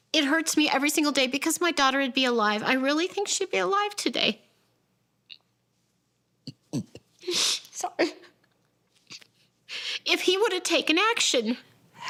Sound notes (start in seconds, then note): 6.4 sobs